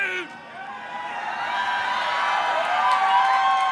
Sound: cheering

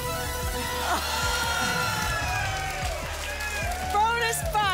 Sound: applause

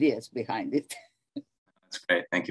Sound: chuckles

